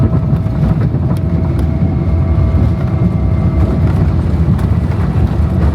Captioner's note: aeroplane whirring continues